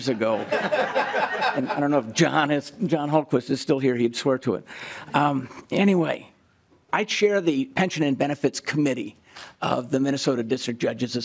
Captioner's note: laughing